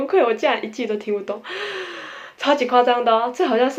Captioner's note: breathing In